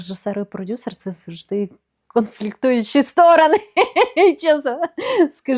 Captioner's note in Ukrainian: сміх